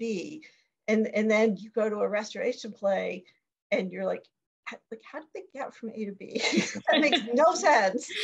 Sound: laughing

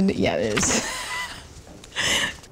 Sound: laughing

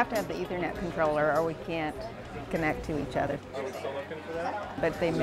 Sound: background discussion

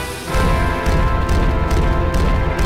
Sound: heavy footsteps

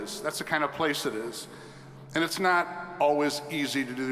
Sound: none

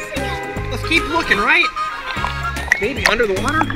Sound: voiceover

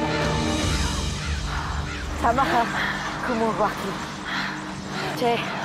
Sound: speaking foreign language

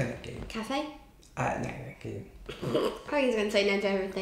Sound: laughs

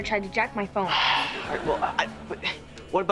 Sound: sighs

